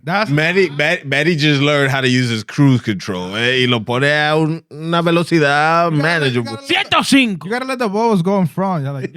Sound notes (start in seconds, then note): 4.4 speaking Spanish